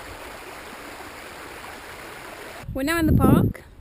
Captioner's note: babbling brook